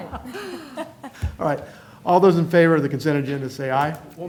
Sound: laughter

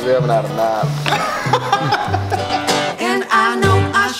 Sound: laughs

